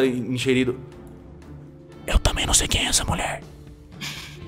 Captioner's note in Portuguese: sussurrando